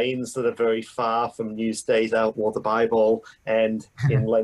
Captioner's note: laughter